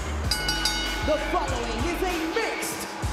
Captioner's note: bell rings